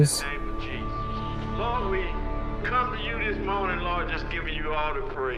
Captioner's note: person On Radio